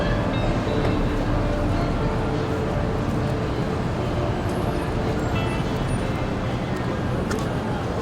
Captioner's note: sounds of traffic